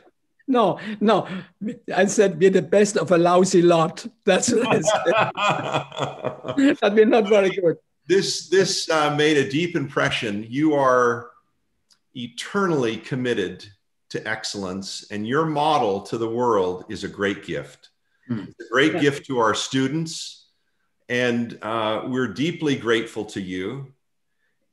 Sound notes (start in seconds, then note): 4.5 laughter